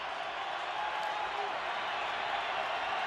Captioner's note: crowd cheering